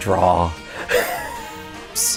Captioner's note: laughing